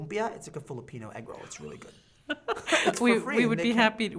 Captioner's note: laughing